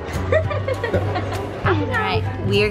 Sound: laughing

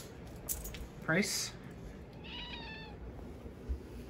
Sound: meows

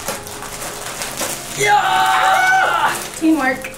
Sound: groaning

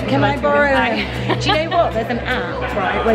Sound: laughs

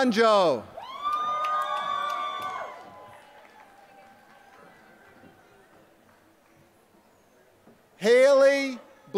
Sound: applause

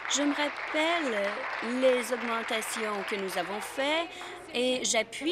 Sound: applause

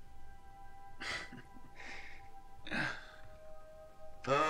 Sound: Charlie laughs

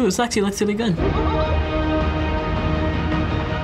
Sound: Pennywise chortling

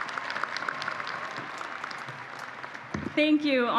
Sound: applause

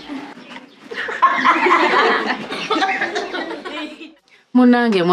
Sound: laughter

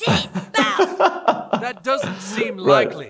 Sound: laughs

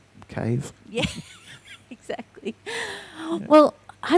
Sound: laughs

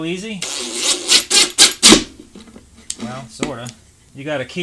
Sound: drill running

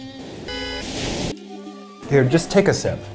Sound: horn honks

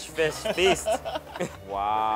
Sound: laughs

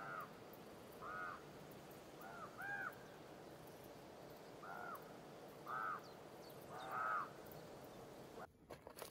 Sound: ravens croaking

